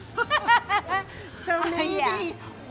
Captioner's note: laughter